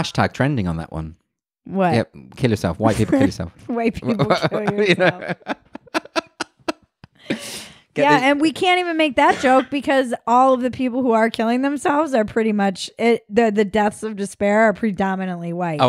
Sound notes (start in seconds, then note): 4.0 laughs loudly